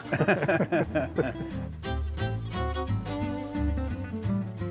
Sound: men laughing

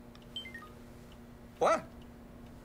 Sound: phone beeping

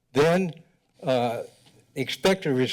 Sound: none

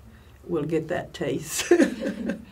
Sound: laughs

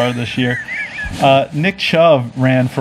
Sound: laughing

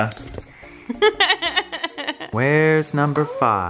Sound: laughs

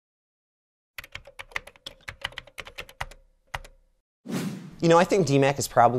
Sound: typing

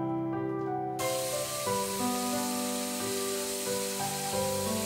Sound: water hissing

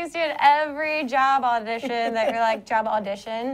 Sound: laughter

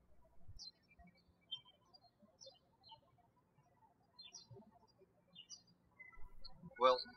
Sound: birds chirping

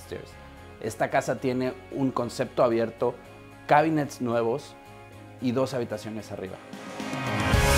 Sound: Spanish

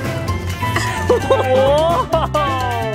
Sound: mom chuckling

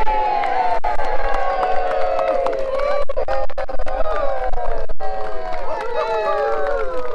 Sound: applause

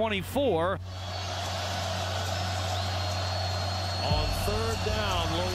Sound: crowd cheering

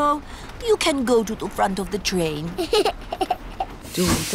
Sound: giggles

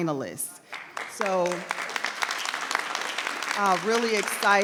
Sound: people applauding

